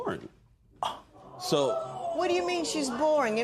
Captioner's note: gasps